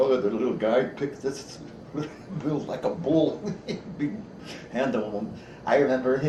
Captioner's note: chuckles